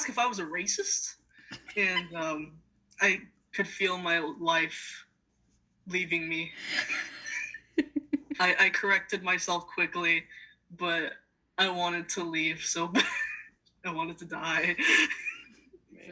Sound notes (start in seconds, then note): 1.5 giggles; 6.6 chuckles